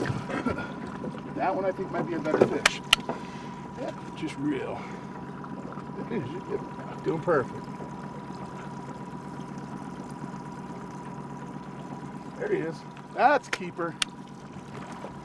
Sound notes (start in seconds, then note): 7.8 boat engine idling